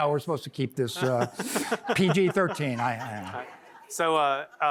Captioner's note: laughter